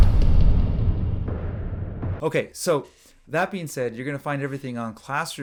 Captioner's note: explodes